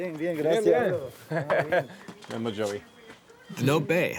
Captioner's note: both speaking Spanish; speaking Spanish